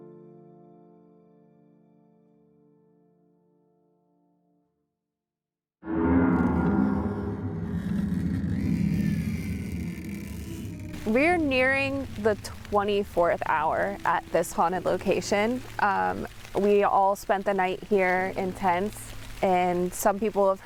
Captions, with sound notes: [Suspenseful music] [Door creaking open] - We're nearing the 24th hour at this haunted location. We all spent the night here in tents and some people have